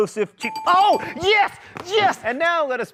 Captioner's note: bell dings